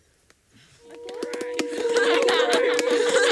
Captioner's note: relieved cheering and laughing…!